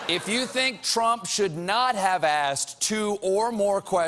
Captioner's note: laughter